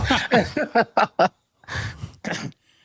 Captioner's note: laughs